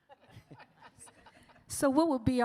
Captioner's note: both laughing